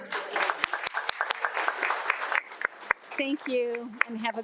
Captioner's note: audience applauds